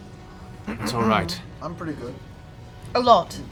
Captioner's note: clears throat